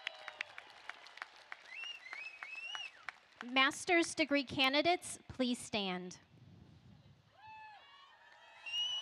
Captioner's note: applause